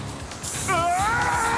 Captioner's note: screams